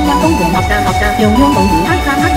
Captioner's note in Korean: 대만어